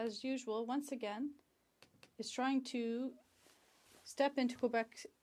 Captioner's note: speaking in French